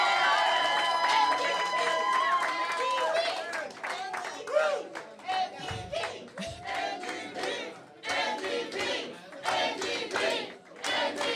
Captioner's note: cheers and Applause